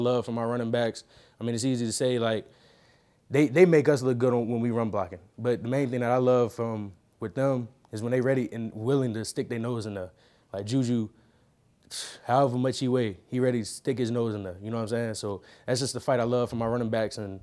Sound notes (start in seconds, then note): 11.6 exhaling sharply